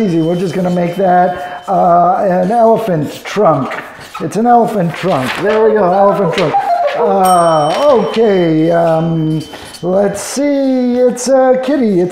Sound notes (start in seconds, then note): 5.3 box beeping; 7.2 bell rings